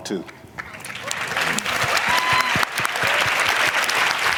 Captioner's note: applause